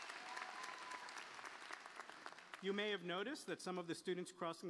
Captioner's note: applause